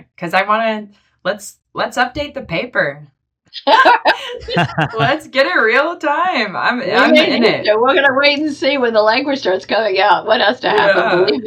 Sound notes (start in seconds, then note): 3.7 laughing; 11.2 laughing